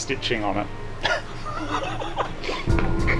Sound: snickers

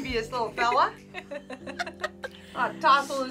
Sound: both laugh

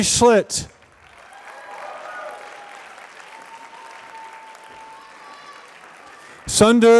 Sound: applause

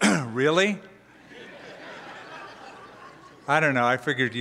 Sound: laughter

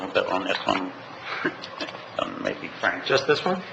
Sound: laughs

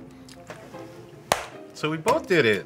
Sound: hands clapping

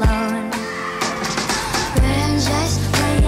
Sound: screams

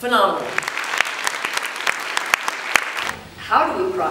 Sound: applause

